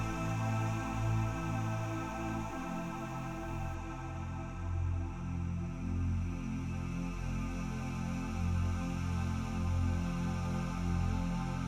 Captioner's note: breathe in and out